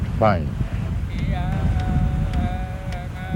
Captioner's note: chanting